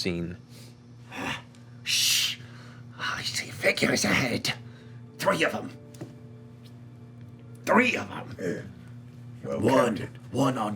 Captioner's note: shushing